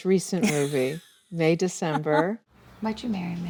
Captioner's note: Julianne laughs